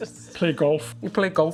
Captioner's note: laughter